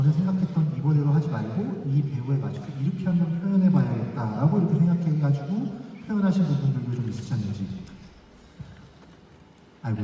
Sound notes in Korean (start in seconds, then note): none